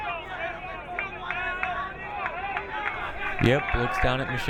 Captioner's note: crowd cheering